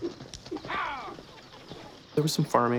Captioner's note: horses clopping